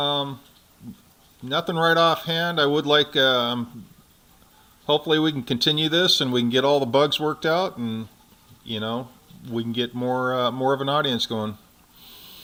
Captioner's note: non-english speech